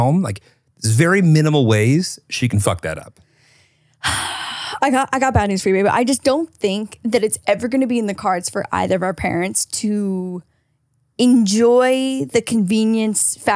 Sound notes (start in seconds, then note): 3.5 sighing